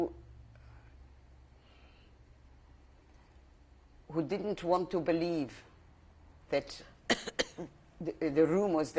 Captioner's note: pauses for 3 seconds